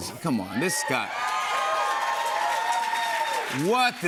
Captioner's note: cheers and applause